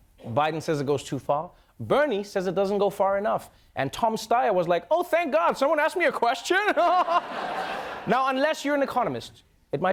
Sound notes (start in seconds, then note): 6.8 laughs